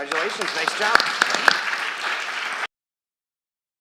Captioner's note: applause